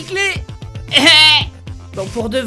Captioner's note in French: Rire de débile